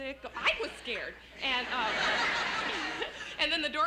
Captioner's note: laughter